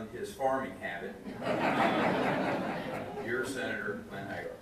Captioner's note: audience laughs